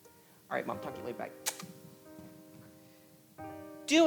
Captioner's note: kisses